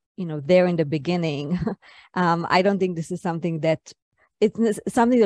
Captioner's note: chuckles